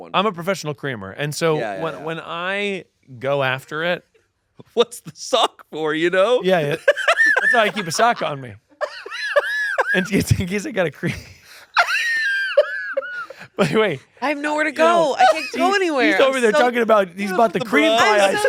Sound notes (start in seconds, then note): 6.7 laughs; 11.7 laughing